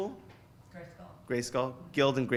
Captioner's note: voiceover